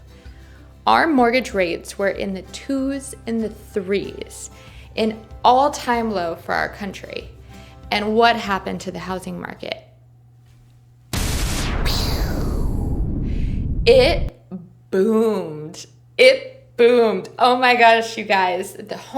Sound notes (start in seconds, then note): 11.1 explosion